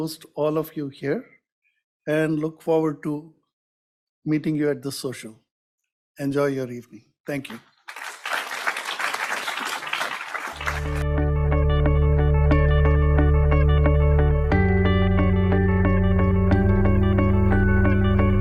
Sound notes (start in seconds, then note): 7.8 audience applauds; 10.6 bright music